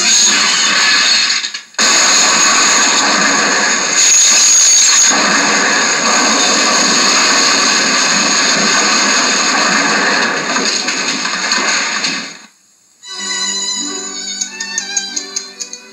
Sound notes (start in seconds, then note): 0.0 glass Shatters; 5.1 crashing